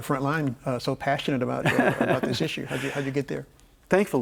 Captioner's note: laughs